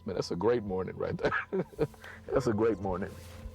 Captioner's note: laughing